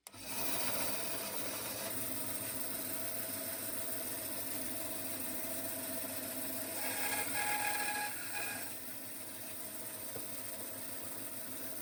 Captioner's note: sawing Noise